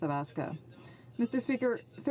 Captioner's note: speaking French